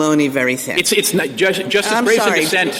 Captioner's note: laughter